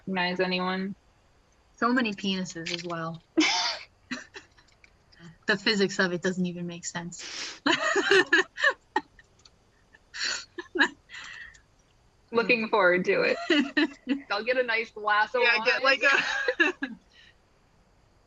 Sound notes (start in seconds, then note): 5.5 laughs; 9.7 laughing; 15.4 laughing